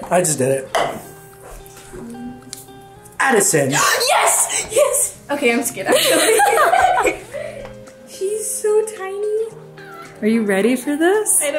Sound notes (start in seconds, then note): 4.4 gasps; 5.8 giggle